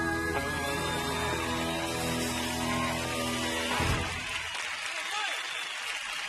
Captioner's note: audience cheering and applauding